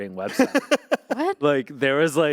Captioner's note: Anthony laughing